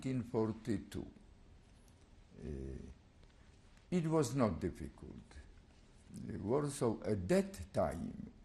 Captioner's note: pauses for 3 seconds